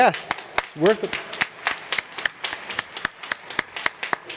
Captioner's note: applause